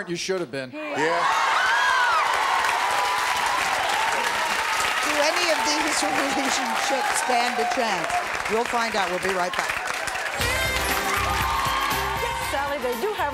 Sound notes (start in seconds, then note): 1.7 audience cheering; 10.2 audience applause